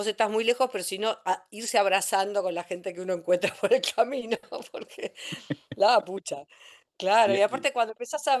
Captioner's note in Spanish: risas